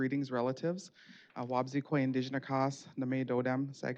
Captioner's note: speaking Native language